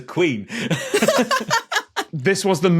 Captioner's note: laugh